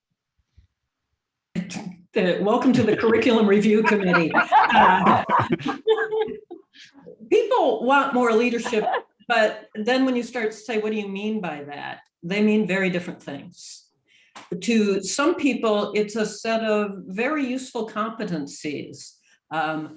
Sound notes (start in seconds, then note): 4.6 group laughs; 8.2 laughs